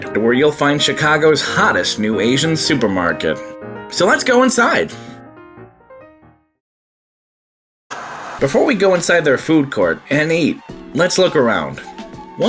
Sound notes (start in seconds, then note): 7.9 TV static